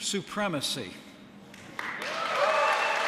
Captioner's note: applause